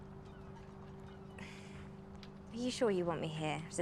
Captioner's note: sighs